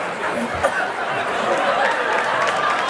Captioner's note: audience laughter